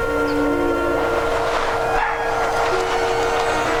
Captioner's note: birds chirping; wind howling; dramatic music